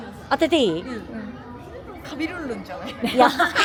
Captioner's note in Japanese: 笑い